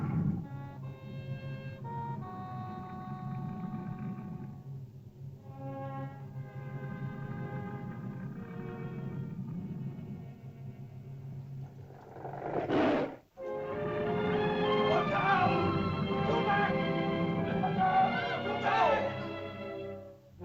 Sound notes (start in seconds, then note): 0.0 lizard grumbles; 0.0 ominous music; 11.6 lizard snarls; 13.4 uplifting music; 14.8 shouting in caveman language; 20.2 dramatic whimsical music